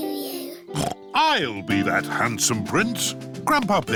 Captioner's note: snorts